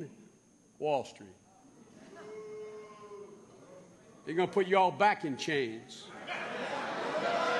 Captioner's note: booing; laughter